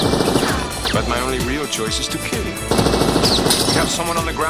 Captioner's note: gunfire; gunfire continues